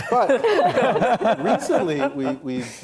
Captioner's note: laughing